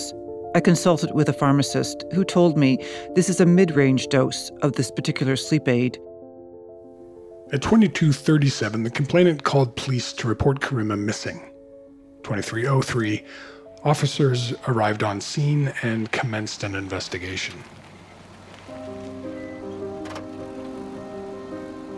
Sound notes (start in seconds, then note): 18.3 car driving in